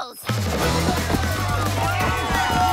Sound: shouting

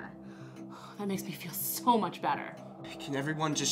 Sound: sighs

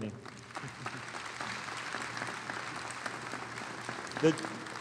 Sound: audience applauding

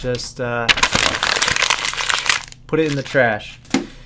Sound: paper crumples

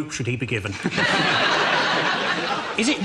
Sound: audience laughs

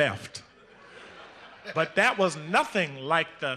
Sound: audience laughing

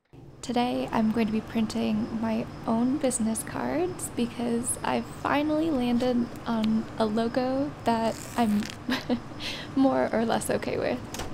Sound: laughs

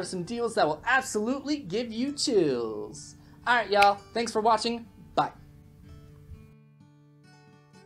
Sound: snap

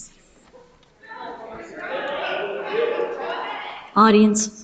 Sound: audience members shouting

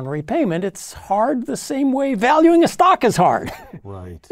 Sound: laugh

